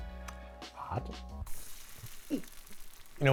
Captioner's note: pan sizzles